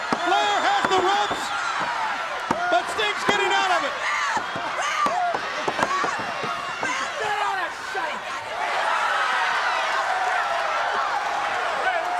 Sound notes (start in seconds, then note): 5.0 Sherri thudding on ring; 8.6 crowd cheering